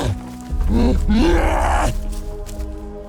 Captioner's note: cyclops grunting; suspenseful music playing